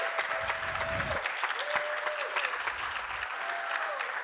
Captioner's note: applause